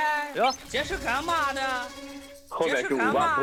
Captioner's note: sudden offscreen voice